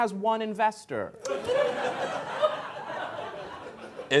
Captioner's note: laughter